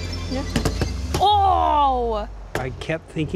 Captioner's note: exclaims